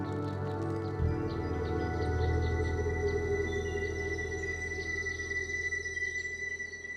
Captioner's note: birds chirping